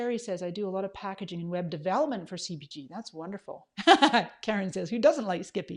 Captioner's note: laughs